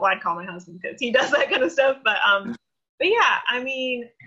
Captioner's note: laughs